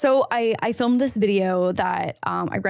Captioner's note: none